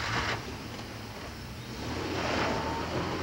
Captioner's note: engine starting